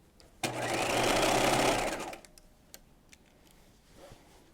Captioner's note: sewing machine whirs